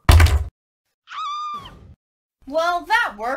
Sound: screams

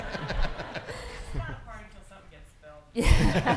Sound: laughing

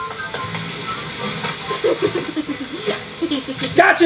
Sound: assistant giggles

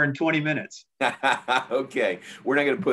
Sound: laughs

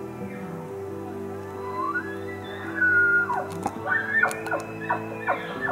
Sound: elk bugling; caller cow calling

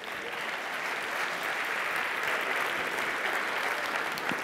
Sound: applause

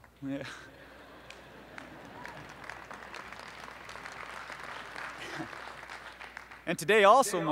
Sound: laughs; applause

